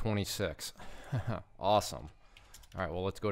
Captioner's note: chuckles